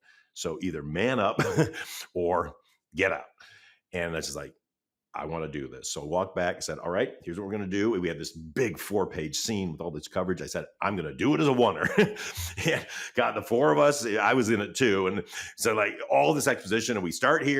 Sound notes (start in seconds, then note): 1.3 chuckles; 11.8 chuckles